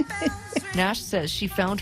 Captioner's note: laughte